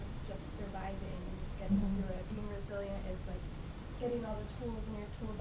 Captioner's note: voice muffled